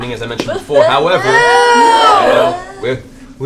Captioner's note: distressed noises